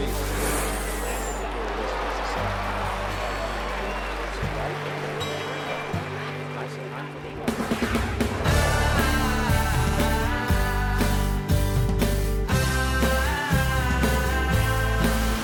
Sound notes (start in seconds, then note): 1.7 cheers and applause; 7.6 upbeat music